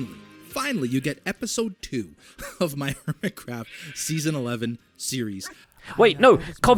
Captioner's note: laughs